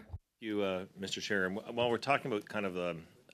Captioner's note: speaking French